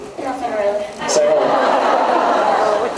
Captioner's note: laughs